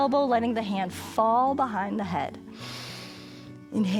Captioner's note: inhales